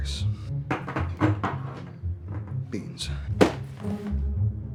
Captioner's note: cans clattering